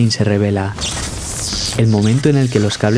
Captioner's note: electricity